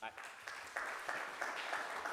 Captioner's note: audience applauding